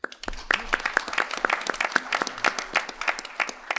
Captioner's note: applause